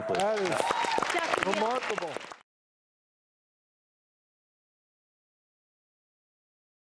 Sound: audience applauds

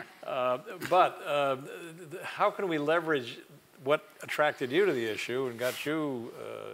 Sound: laugh

